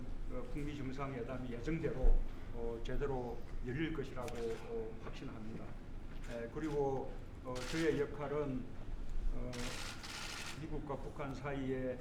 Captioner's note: speaks Korean